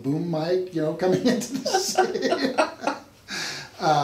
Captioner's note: laughs